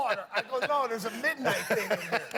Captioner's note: laughter